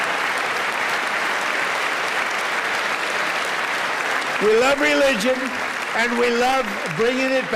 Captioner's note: applause